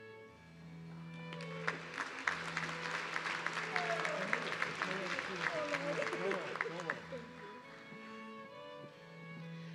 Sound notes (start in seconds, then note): 1.2 audience clapping